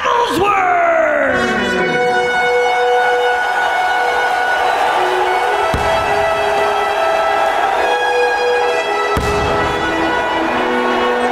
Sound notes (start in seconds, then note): 1.1 game horns go off; 2.4 audience cheering